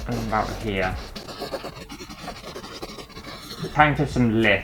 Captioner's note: pen Scraping On Canvas